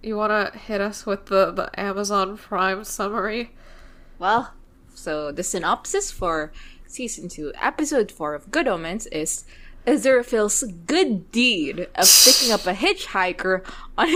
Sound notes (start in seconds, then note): 11.0 laughs